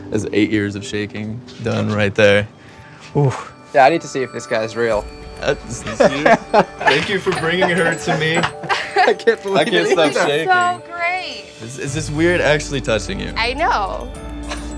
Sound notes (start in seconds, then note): 5.7 Nev laughing